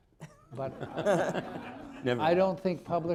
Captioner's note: laughter